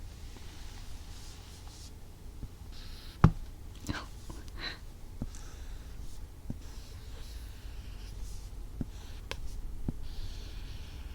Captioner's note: writing sound